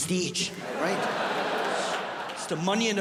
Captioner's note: audience laughs